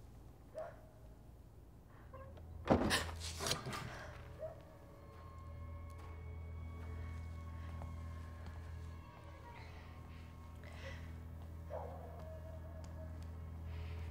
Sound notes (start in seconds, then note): 2.6 thumping; 6.3 suspenseful music